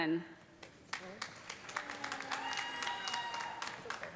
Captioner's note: cheers and applause